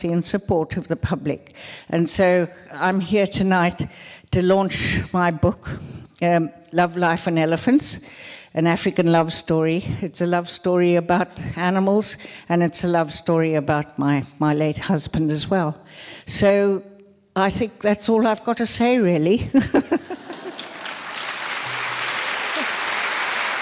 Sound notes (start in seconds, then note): 19.5 laughter; 20.2 applause